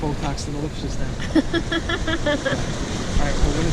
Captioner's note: laughing